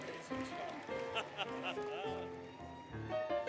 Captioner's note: laughter